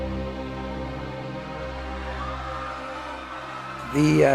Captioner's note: people shouting